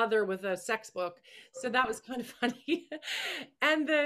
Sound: laughing

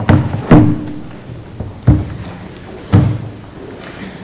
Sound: microphone thumps

